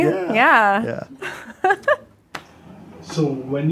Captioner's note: laughs